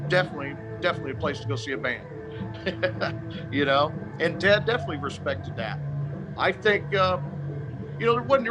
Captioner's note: chuckle